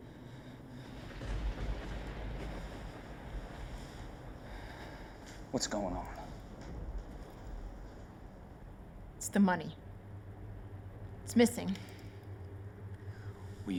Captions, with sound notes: (thunder booming) - What's going on? - It's the money. It's missing.